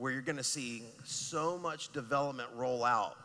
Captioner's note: none